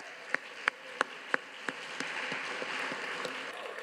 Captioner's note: all applauding